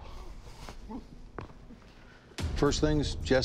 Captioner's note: exhales